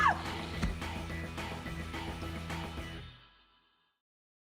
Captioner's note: screams